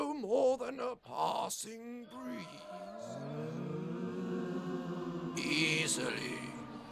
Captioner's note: wailing of lost souls